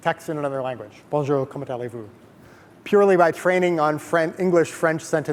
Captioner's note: speaking in foreign language